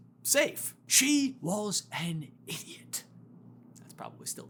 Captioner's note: accented